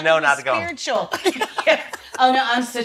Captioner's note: laughs